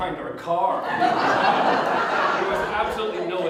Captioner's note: audience Laughter